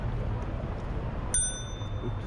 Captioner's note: ding